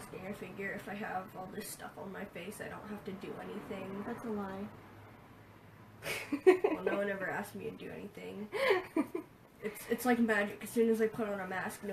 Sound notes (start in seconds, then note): 6.0 laughs